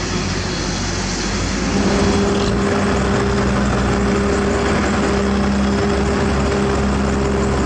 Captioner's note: hydraulic Sound